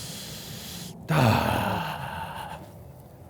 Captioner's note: groans